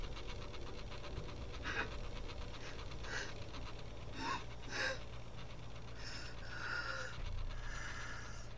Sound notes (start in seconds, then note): 1.7 Vanessa sobbing